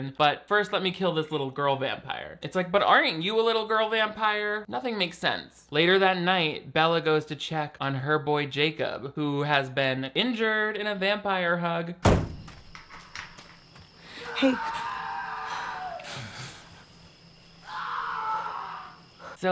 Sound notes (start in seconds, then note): 12.0 truck door slams; 15.8 Jacob screaming in distance